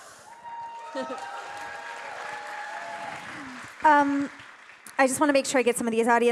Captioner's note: audience applauding and cheering